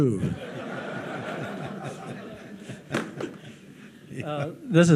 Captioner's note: audience laughing